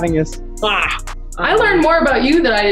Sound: kiss smacking

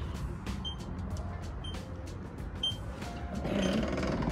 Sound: alarm beeping

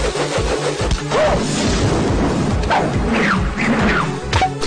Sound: thunder crashing

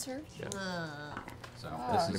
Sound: groans

